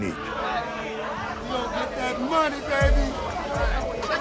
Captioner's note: overlapping chatter